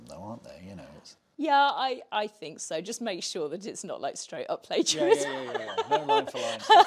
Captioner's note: laughs